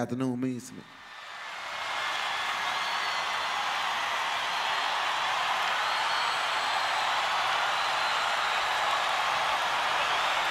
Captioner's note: cheering